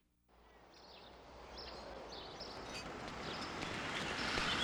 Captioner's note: birds chirping